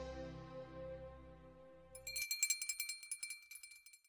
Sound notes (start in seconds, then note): 1.9 bell rings